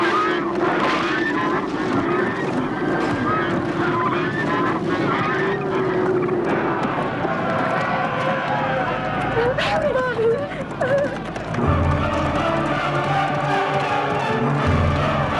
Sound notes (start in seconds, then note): 0.0 geese honking; 7.0 raiders shouting; 9.4 whimpers; 11.4 dramatic orchestral music